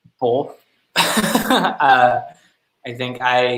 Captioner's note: laughing